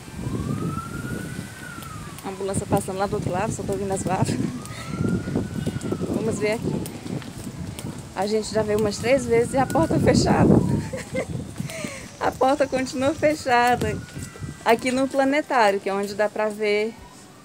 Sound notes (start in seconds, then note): 10.8 laughs